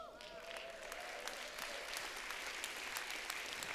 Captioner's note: applause